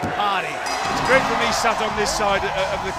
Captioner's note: bell ringing